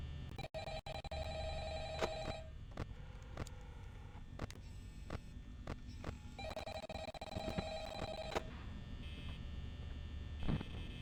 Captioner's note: phone rings